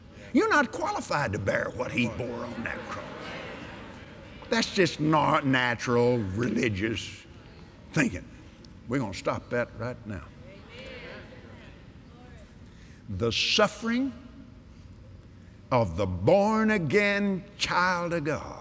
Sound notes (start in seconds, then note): 2.2 audience Agrees; 11.6 audience "Amens"